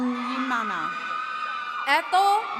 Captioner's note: attendees cheering